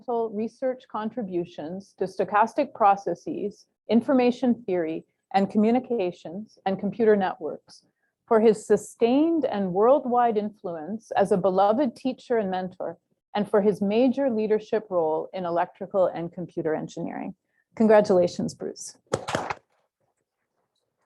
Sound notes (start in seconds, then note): 19.1 applause